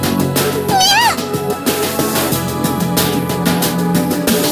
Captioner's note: roaring